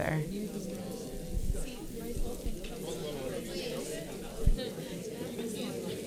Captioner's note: paper crinkling and audience chattering